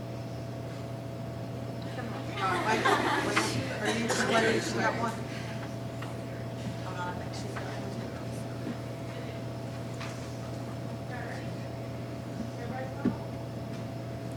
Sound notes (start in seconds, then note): 1.8 laughing; 4.0 faintly speaking